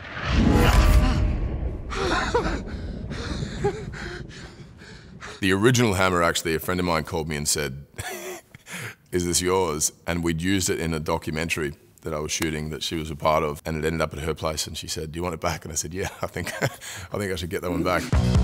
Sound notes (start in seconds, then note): 0.1 hammer whistling; 1.9 Thor laughs